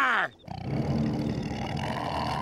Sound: growling

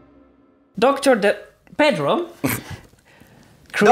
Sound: snicker

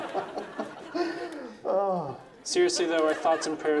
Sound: laughs; sighs

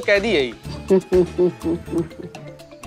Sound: chuckling

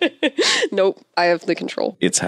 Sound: laughs

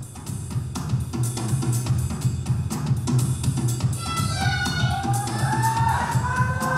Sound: upbeat music; audience cheering

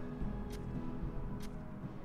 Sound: quiet stabbing

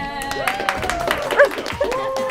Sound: applaud

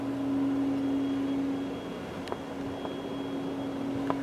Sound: vacuum running

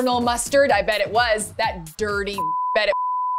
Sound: beep

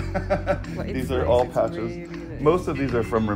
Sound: laugh

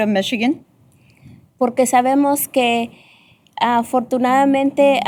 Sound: speaking spanish

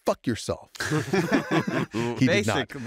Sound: laughter

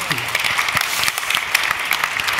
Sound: applause

